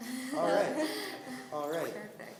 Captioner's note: laughing